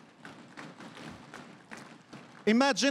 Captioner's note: crowd cheering and applauding